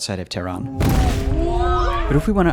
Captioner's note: bomb explodes